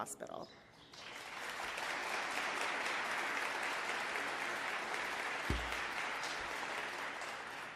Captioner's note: applause